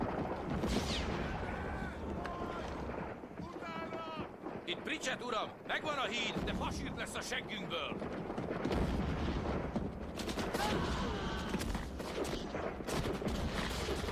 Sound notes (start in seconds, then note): 10.6 screams; 11.0 gunfire and artillery booming